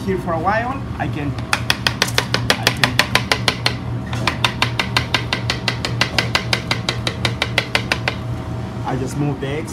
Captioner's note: tapping on the mold